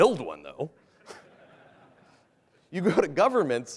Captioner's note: laughter